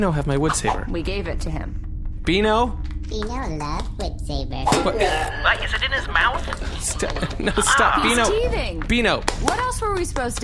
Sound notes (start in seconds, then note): 4.7 Beano whacks something metallic; 9.2 clapping